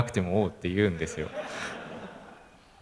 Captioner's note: laugh